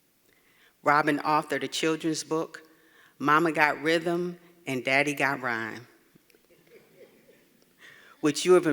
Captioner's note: laugh